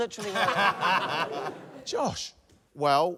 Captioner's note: laughter